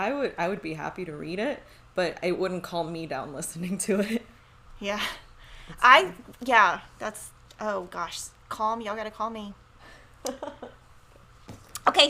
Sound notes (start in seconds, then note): 4.3 chuckles; 10.2 laughs